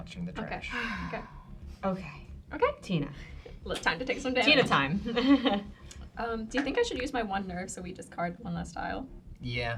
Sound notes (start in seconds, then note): 5.0 nervous giggling